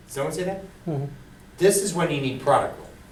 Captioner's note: voiceover